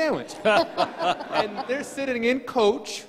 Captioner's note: crowd laughing